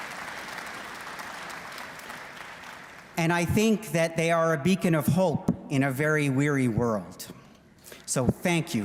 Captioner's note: applause